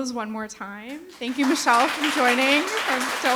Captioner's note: everyone applauding